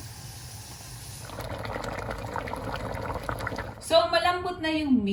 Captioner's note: boiling